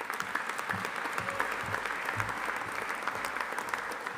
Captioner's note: audience applauding